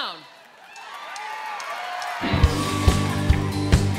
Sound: audience cheering

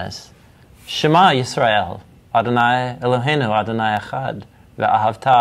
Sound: speaking in Hebrew

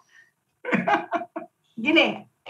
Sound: laughing

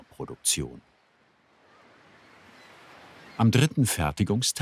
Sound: the sound of the sea, the screeching of seagulls

